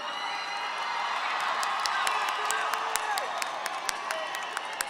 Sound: audience cheering

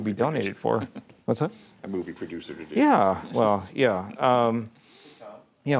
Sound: laughing

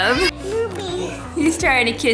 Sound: babbles

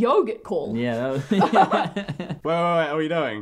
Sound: laughs

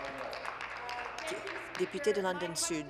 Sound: applause

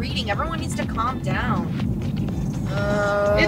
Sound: sigh

